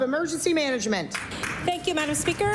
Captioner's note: applause